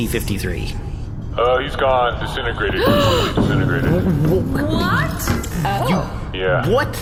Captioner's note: gasps